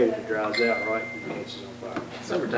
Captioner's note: bell dings